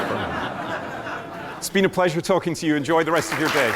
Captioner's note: laughter